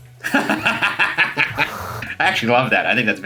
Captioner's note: laughs